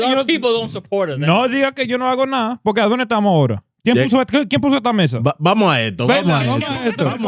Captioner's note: speaking In Foreign Language